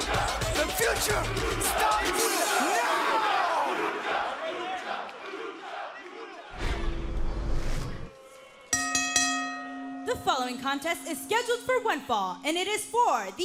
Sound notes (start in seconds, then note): 0.0 crowd cheering; 8.7 bell ringing